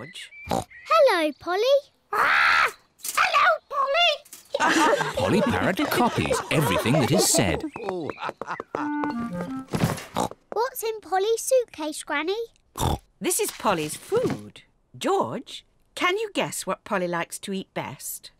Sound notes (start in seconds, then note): 0.4 oinks; 4.5 all laugh